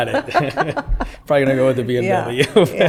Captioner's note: laughter; laughter